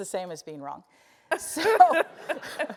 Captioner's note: laugh